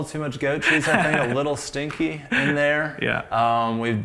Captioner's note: laughs